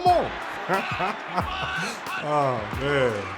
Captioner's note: chuckling